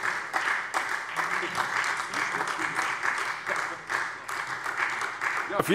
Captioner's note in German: Beifall SPD